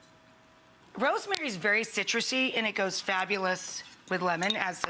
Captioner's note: none